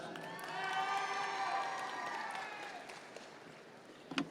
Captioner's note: audience members cheer